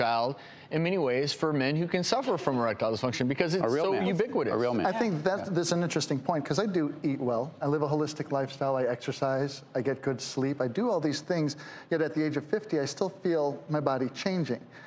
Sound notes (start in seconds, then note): none